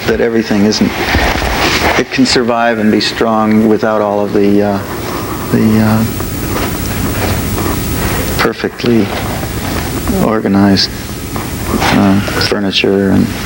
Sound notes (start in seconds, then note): none